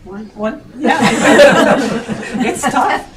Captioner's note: laughs